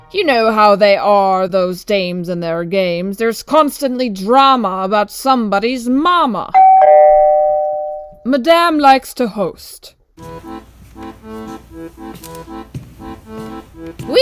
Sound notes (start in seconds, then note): 6.5 doorbell; 10.2 accordion music